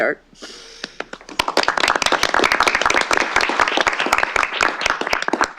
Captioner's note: applause